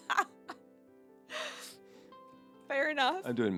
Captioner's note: laughing